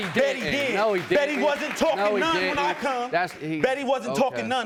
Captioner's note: audience applauding